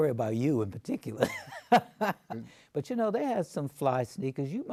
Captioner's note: laughs